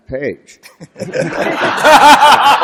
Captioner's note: laughter